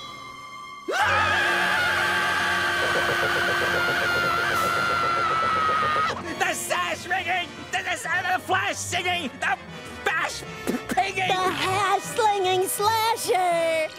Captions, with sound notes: [screaming] The Sash-Wringing-- The Flash-Singing-- The Fash P-pinging-- The Hash-Slinging Slasher!